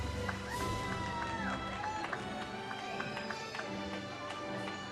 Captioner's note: audience cheers